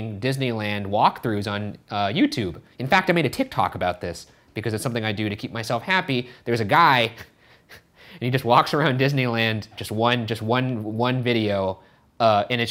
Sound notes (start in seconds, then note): 7.1 chuckle